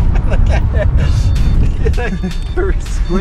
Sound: laughing

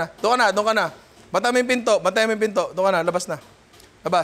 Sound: none

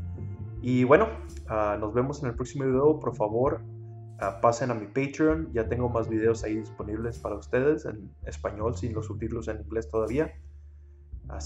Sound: in Spanish

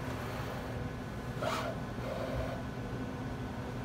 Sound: machine quietly moves

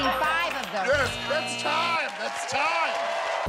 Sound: buzzer

